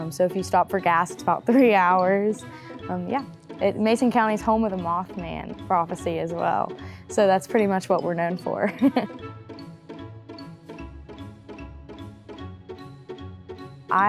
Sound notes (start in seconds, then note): 8.8 laughs; 9.8 upbeat instrumental music